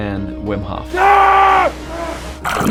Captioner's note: roars